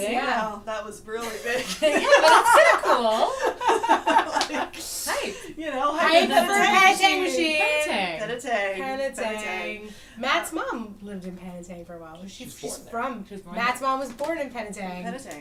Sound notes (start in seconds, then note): 1.3 laughs